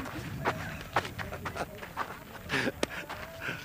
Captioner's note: Sean laughs